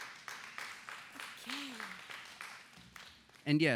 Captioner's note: applause